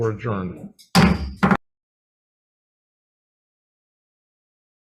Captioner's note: gavel banging